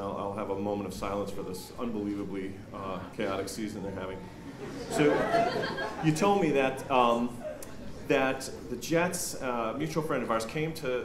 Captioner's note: laughter